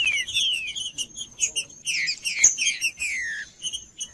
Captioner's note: trinca ferro cantando